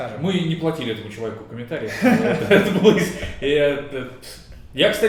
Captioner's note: laughing